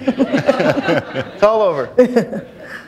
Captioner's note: laughter